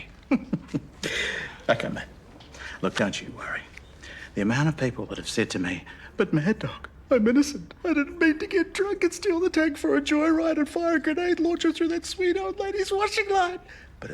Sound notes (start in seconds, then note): 0.0 chuckles; 6.6 sobs